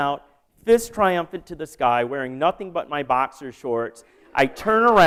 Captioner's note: laughter